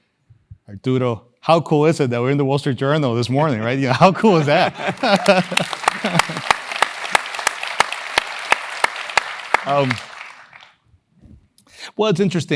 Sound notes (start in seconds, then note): 3.6 laugh; 4.4 applause